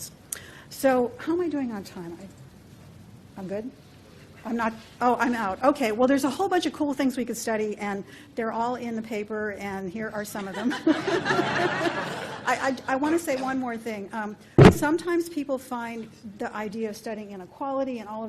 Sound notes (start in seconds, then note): 10.6 hearty laughter